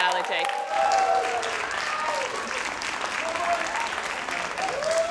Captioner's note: crowd cheering and applauding